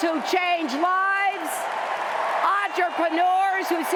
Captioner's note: cheers and applause